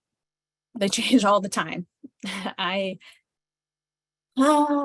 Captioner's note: chuckles